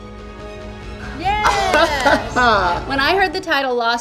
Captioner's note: Peppermint claps and laughs